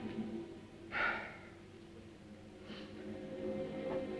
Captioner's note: surgeon sighs; tense music